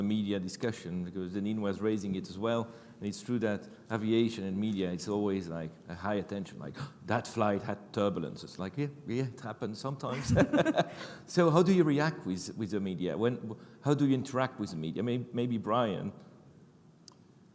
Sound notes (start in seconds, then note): 6.8 gasps; 10.1 chuckle